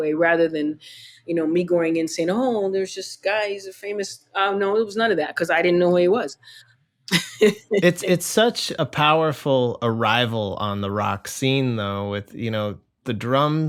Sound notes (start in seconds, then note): 7.1 laughter